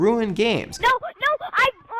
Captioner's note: crying